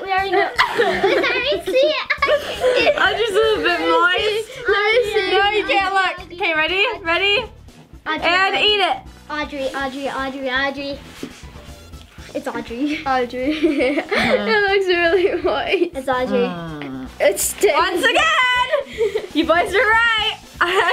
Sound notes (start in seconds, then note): 0.3 laughs; 13.5 laughs